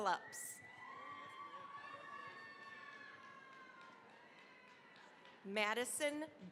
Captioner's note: cheering, applause